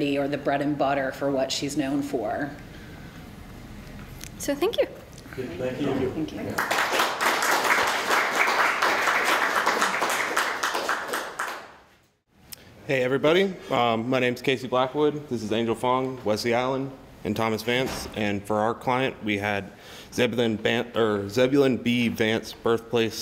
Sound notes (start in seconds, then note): 6.5 applause